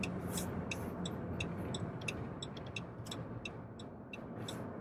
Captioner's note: turn signal blinking